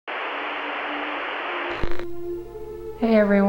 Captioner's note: TV static